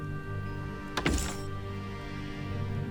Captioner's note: sentimental music playing; clangs